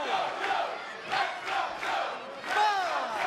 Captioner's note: fans chanting